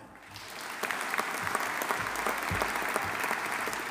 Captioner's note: audience applauding